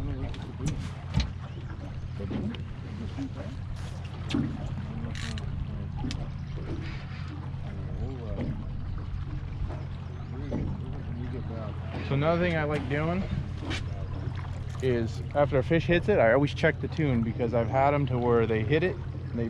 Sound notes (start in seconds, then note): 0.0 background chatter; 1.8 water lapping; 5.0 reel cranking; 10.5 water lapping